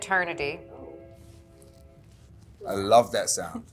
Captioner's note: train whistle blowing